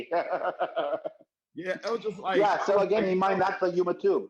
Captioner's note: laughing